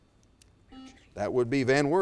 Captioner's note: buzzer